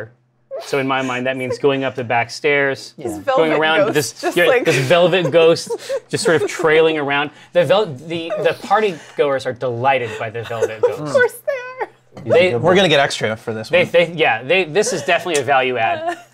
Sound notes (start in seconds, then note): 10.0 laughs